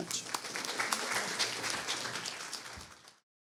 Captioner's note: audience clapping